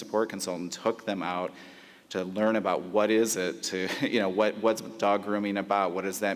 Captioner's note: laughs